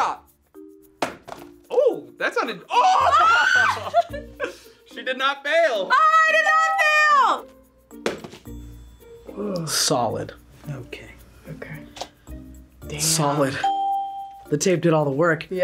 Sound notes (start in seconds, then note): 2.7 screams; 13.4 bell rings